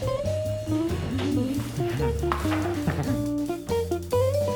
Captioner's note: giggles